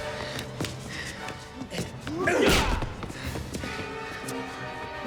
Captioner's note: Dalton grunts; blows thudding; tense music